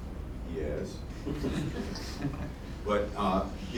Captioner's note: laughter